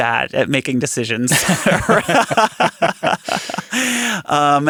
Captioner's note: laughing